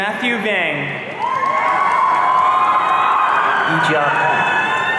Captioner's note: audience cheering